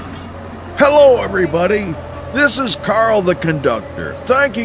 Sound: engine roaring

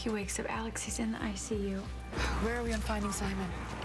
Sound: sighs

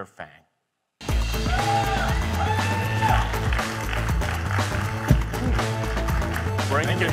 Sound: upbeat music; audience cheering

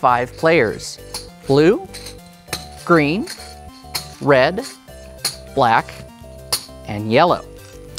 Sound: game pieces rattling in turn

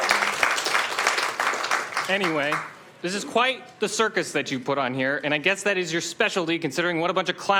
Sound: applauding

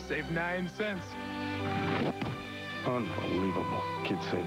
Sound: sound of can being "pitched" back to him at some speed; ballplayer, muttering

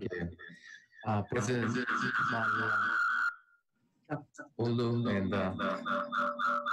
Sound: resonating echo

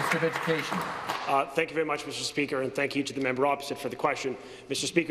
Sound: applause

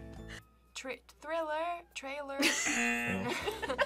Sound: both laugh; buzzer

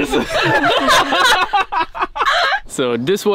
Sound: all laugh

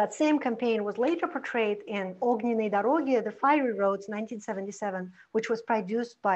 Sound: foreign language

